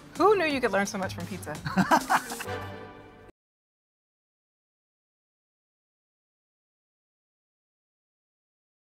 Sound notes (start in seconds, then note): 1.6 laughter